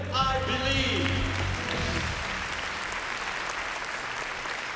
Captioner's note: applause